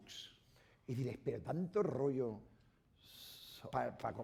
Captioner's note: speaking spanish